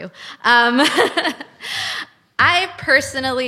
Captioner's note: laughs